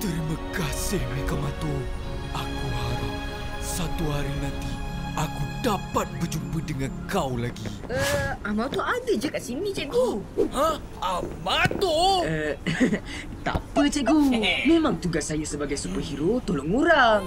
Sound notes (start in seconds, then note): 1.4 birds chirping; 7.2 footsteps approaching